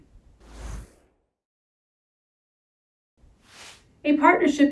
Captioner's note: title whooshing